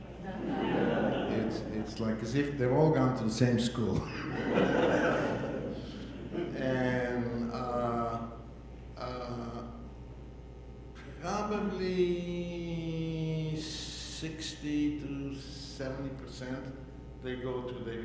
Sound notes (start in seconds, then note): 4.0 audience laughing